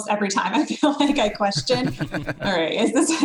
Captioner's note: laughs